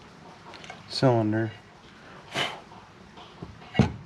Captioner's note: snorts